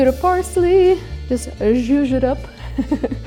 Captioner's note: chuckles